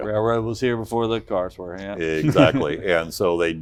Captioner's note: laughs